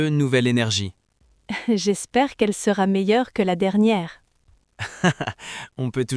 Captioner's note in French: rire